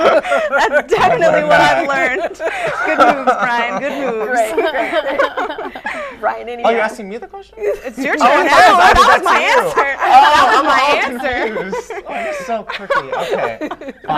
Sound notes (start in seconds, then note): 4.6 laughing; 8.4 laughter